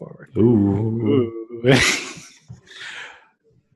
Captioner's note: laughs